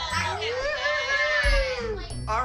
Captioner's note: whooping; cheering